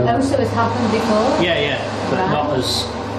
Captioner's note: hand dryer roaring